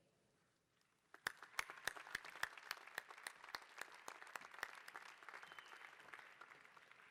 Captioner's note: applause